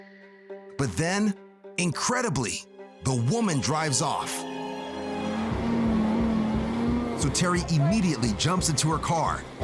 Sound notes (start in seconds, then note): 5.0 car engine revving